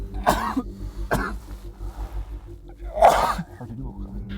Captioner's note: coughing